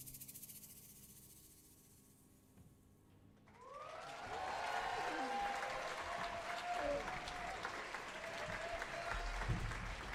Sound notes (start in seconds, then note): 3.5 audience cheering and applauding